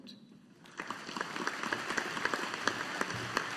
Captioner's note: audience applauding